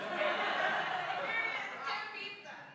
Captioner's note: laughing